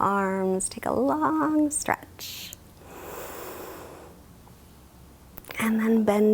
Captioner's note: inhales deeply